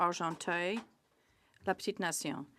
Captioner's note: speaking French